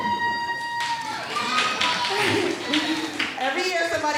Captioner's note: all applauding and cheering